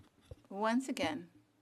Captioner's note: speaking FRENCH